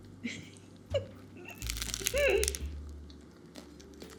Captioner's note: chuckles